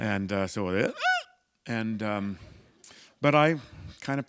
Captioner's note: squeak